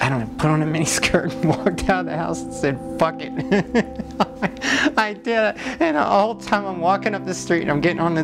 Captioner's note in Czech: Směje se